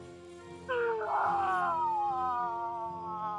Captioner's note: screaming; soft dramatic music